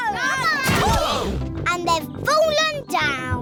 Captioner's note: all groan